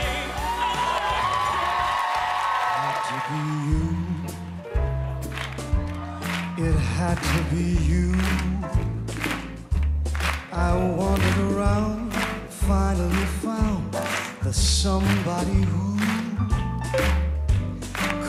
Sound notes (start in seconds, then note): 0.0 cheers and applause